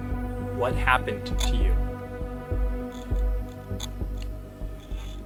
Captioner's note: static crackling